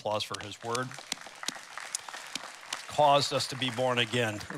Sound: applause

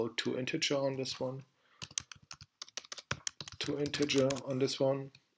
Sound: typing

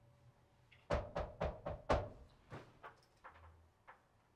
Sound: Steven knocking

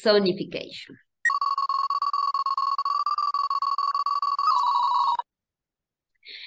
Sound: sonification plays again

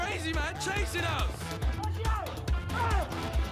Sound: shouting

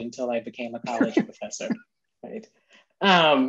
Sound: laughing

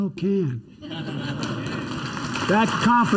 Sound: laughter and applause

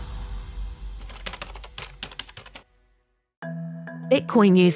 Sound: keyboard tapping

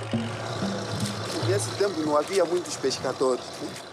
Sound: Portuguese spoken audio

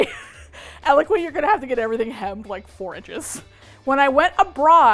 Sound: laughs

